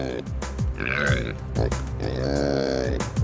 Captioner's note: pig oinking